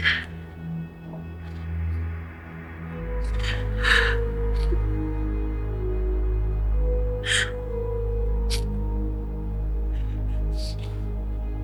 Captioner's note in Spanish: risas